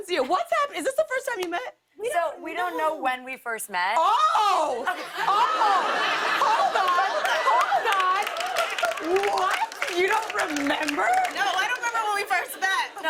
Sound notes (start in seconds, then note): 4.8 laughter; 6.7 applause